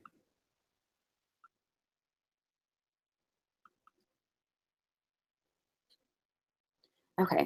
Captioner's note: silence